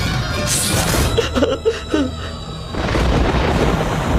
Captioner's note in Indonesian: tertawa